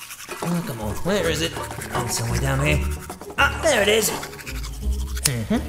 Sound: can rattling

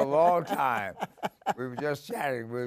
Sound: laughing

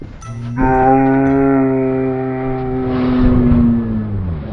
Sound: slow motion horn

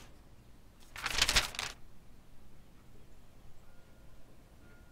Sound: newspaper crinkles

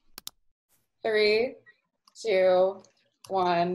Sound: button clicks

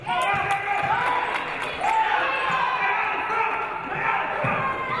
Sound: audience applauding

